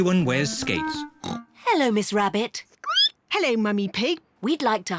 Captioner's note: snorts; squeaks